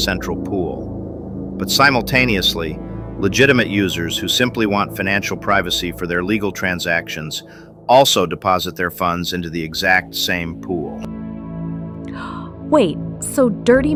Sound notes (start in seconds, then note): 12.1 gasps